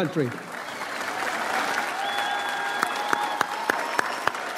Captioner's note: audience applauds